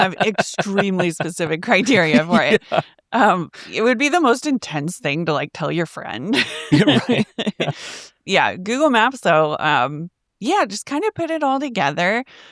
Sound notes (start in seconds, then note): 0.0 laughing; 6.3 laughs